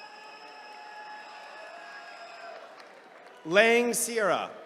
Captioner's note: attendees cheering